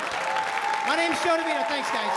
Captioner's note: applause